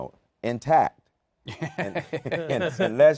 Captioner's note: laughs